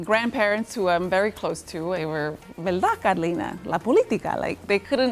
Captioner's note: speaking Spanish